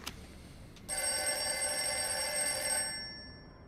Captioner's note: telephone ringing